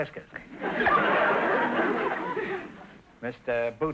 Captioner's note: audience laughter